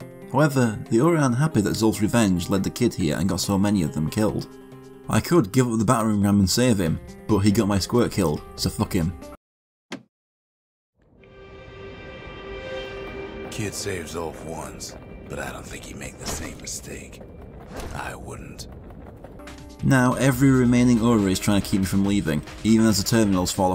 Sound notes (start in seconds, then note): 11.0 in-game audio